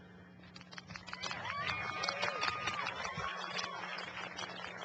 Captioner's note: cheering and applause